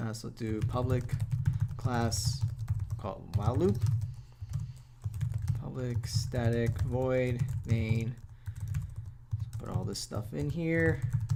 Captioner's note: typing